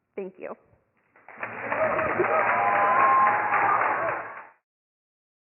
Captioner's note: applause